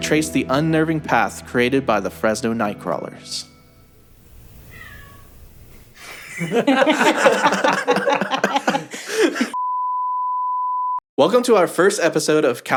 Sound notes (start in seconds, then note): 4.4 meow; 6.0 laughter